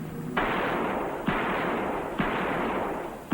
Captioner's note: gunfire